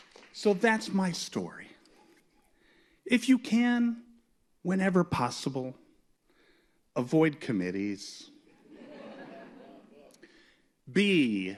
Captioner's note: laughter